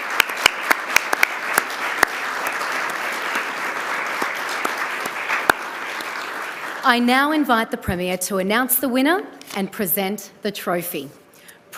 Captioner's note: applause